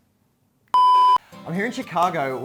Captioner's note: beep sound